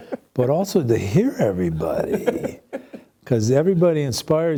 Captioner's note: laughs